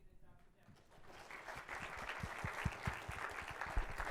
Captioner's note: applause